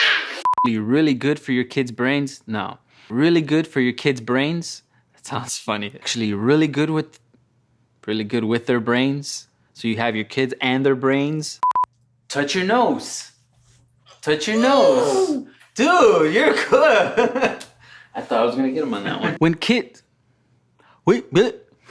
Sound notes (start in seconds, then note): 15.2 growls